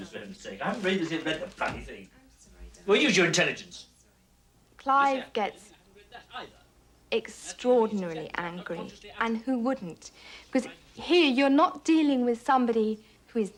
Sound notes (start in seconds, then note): 4.7 conversation continues in the background